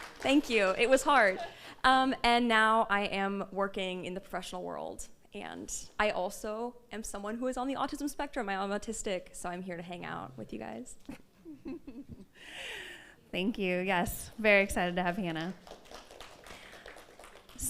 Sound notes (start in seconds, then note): 0.0 audience applauds; 11.3 all laugh; 15.5 audience applauds